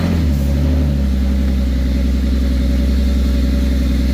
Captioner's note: engine starts